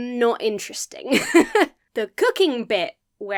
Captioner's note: laughs